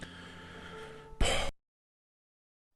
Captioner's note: exhales audibly annoyed